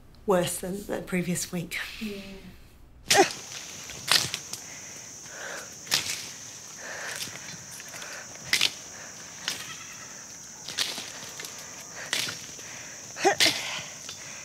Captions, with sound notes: worse than the previous week. (grunting) (branches snapping) (breathing heavily)